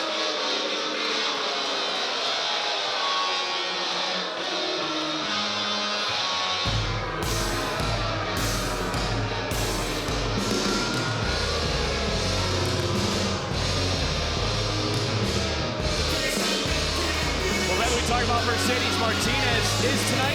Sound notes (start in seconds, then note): 0.1 high energy techno music; 4.9 crowd jeering